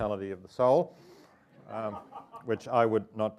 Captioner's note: audience laughing